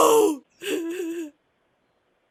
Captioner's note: sobbing quietly